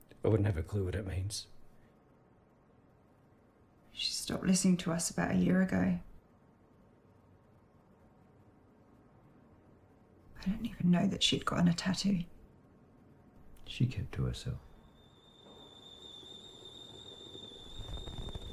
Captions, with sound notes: I wouldn't have a clue what it means. She stopped listening to us about a year ago. I didn't even know that she'd gotten' a tattoo. She kept to herself. [kettle whistles] [kettle boils]